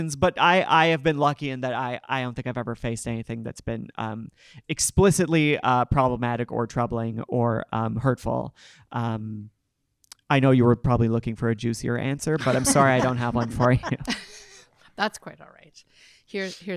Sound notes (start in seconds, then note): 12.4 panel laughing